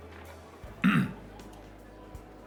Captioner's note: James clears throat